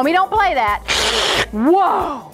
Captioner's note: hisses